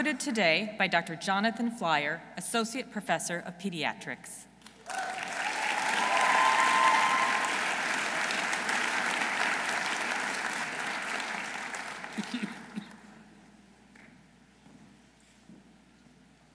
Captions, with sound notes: Who is being hooded today by Dr. Jonathan Flyer, associate Professor of Pediatrics. -(audience cheering) -(audience applauding)